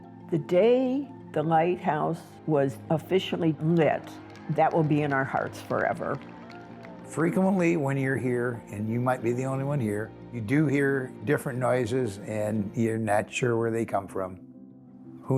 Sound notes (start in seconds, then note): 6.2 group applauding